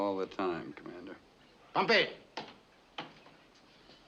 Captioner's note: speaking japanese